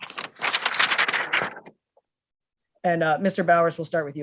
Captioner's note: paper rustling